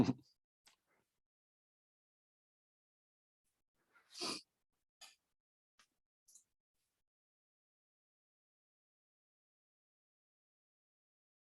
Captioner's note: silence